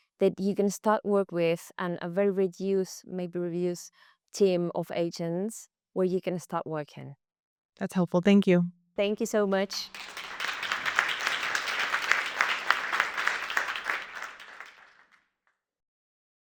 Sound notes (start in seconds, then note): 9.4 audience clapping